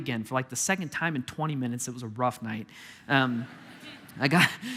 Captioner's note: congregation laughing